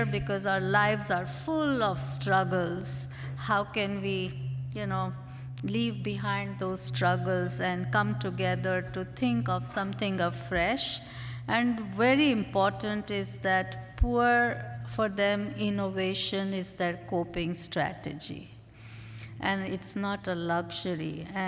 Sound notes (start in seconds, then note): none